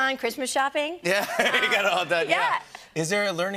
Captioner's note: laughter